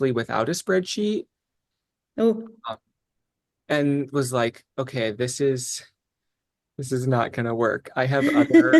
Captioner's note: laughs